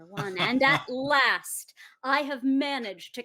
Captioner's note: laughs